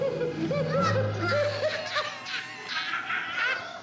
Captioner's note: everybody laughing